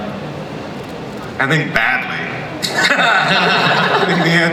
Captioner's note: laughs